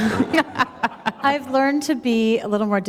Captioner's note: laughter